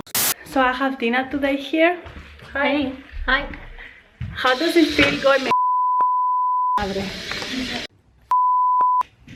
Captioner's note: Spanish